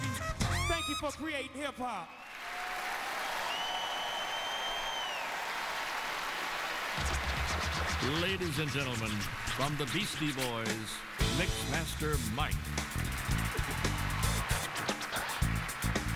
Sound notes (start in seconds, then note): 0.0 crowd cheering; 6.3 crowd cheering